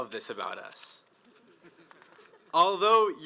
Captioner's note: audience laughs